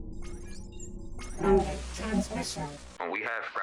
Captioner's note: Robotic voice